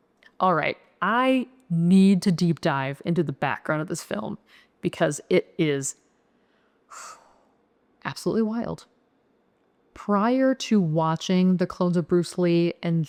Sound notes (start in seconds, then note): 6.4 exhale